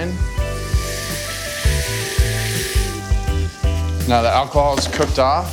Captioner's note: wine sizzles